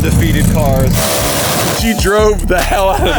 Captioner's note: car tearing